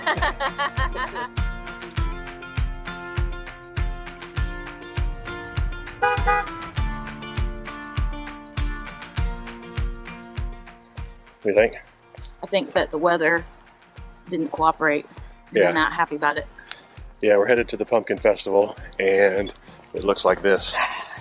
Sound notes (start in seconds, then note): 0.0 laughing; 2.6 upbeat music; 6.0 car horn beeps